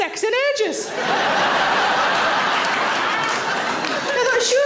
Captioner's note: audience laughing and clapping